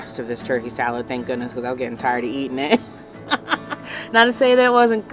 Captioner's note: laughs